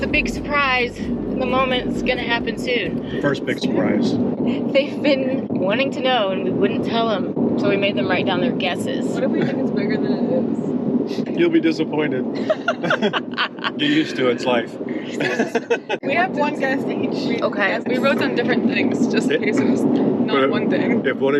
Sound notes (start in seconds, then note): 12.4 laughing